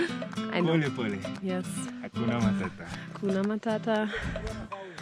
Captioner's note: Swahili